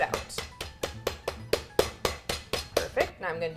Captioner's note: meat mallet pounding